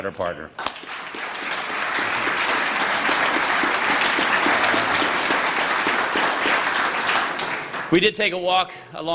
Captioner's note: applause